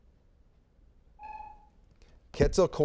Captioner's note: buzzer beeping